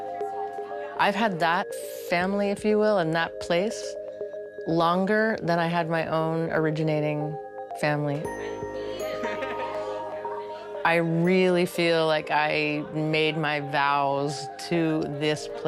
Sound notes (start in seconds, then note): 7.5 laughter